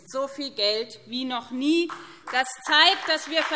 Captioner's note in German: Beifall BÜNDNIS 90/DIE GRÜNEN und CDU